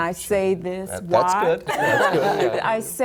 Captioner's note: laughter